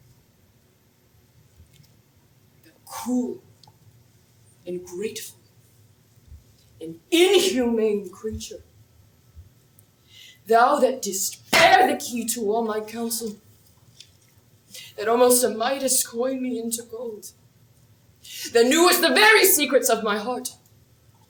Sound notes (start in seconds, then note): none